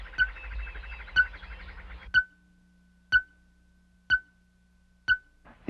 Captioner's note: beeping sound